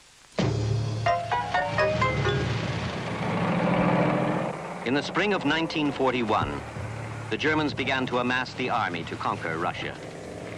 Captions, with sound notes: (erratic dramatic music continues) (vehicle engine revving) In the spring of 1941, the Germans began to amass the army to conquer Russia.